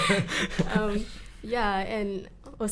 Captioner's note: all laugh